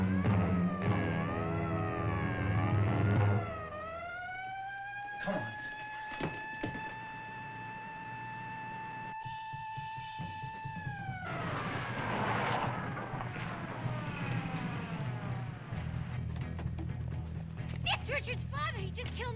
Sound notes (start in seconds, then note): 0.8 siren blaring